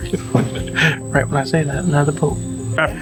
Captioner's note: laughter